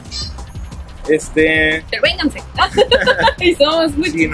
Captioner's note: laughs